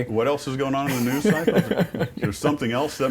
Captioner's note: laughter